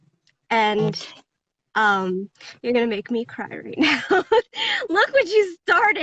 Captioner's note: laughs